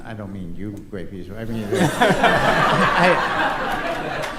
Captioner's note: laughter